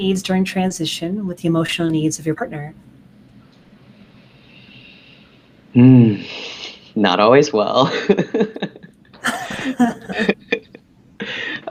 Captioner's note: laughing